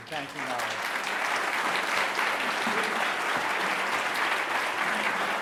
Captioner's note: audience applauding